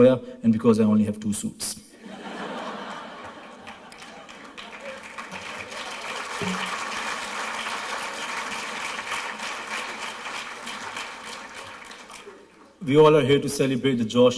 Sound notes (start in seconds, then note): 2.3 laughter, applause